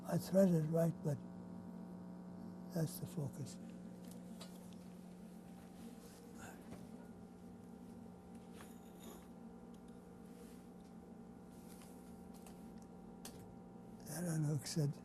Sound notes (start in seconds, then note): 3.4 pauses for 10 seconds